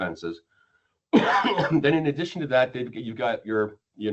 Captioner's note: coughs